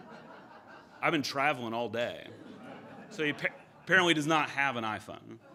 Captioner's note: audience laughter